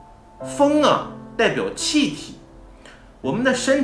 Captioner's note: breath